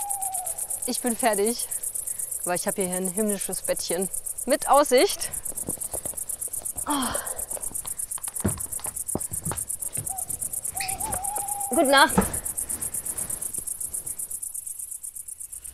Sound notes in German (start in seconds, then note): 6.8 stöhnt